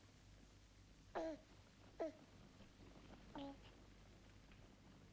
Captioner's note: baby cooing